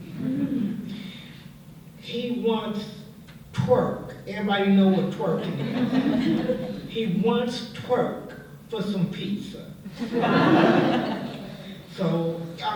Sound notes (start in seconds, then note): 0.1 laughter; 5.4 laughter; 9.9 laughter